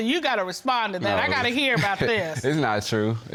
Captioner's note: laughs